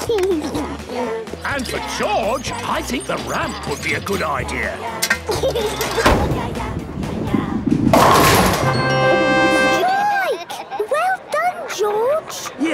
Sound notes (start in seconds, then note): 0.1 giggles; 5.1 giggles